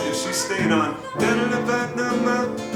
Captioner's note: hums melody